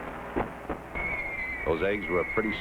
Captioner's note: bombs whizzing